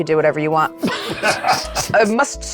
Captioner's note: chuckling